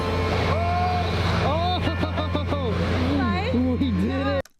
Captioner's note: man bellows